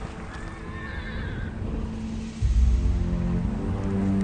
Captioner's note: horses neighing